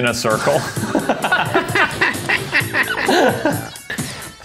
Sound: all laughing

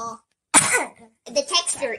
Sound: coughs

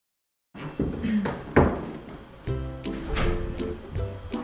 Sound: door opening

